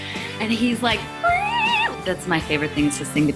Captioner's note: vocalizing